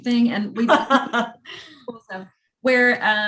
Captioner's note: laughing